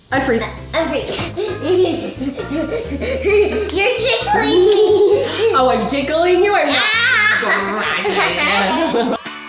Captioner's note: giggling